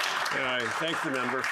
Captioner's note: applause